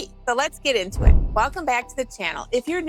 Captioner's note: whooshing